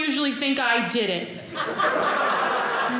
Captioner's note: audience laughing